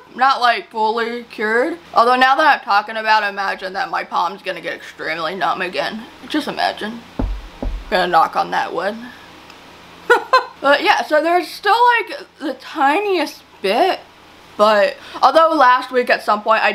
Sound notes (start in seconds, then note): 7.2 knocking noises; 10.1 chuckles